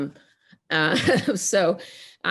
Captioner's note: chuckles